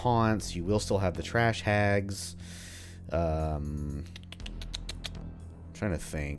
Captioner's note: thinking sounds